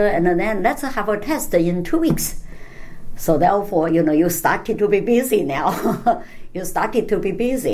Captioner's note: laughs